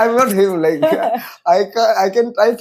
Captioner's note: laughs